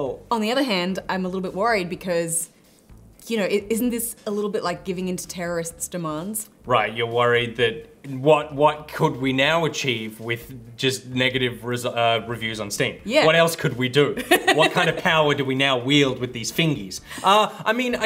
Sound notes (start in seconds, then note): 14.2 laughs